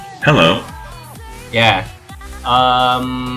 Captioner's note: sounds from the website